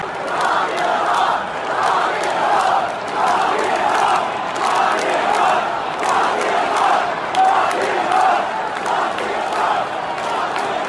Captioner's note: chanting